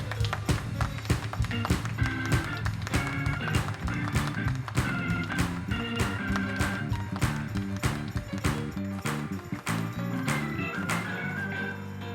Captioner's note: clapping in rhythm